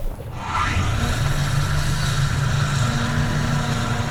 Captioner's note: car revs